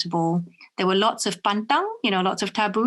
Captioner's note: speaks in foreign language